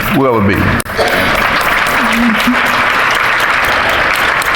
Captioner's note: audience applauding